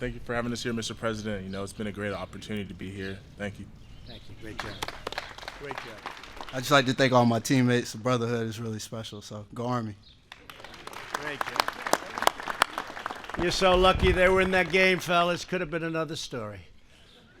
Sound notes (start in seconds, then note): 4.5 applause; 10.2 applause